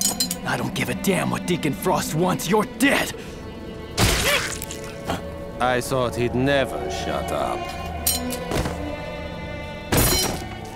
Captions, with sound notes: I don't give a damn what Deacon Frost wants, you're dead! (GUNSHOT) -(GROANS) I thought he'd never shut up. (THUDDING)